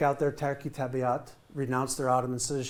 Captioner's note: speaking in foreign language